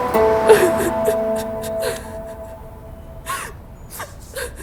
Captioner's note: sobbing